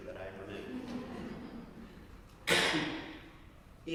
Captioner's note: laugh; cough